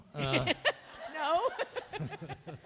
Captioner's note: audience laughing; laughs